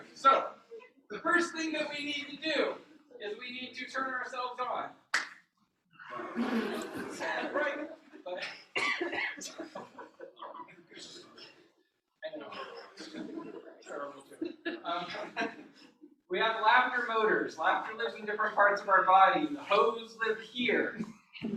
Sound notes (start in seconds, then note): 6.0 laughter